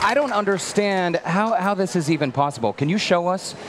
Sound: cheering

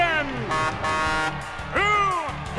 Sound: honking

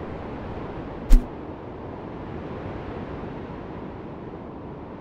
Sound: wind blowing

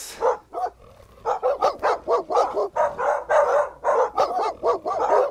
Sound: dogs barking outside

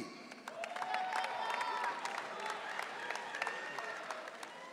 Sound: audience cheering

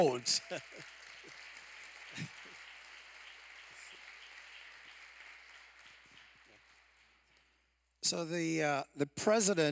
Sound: applause

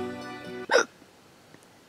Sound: hiccup

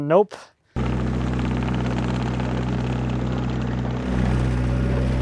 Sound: machine rumbles

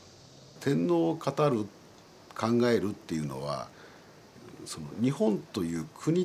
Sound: speaking in foreign language

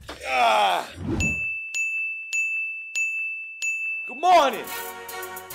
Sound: grunts; bell dinging

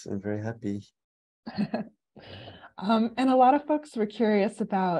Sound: laughs

